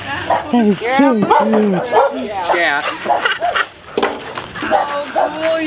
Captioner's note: laughter